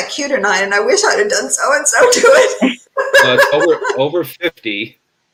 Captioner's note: laughs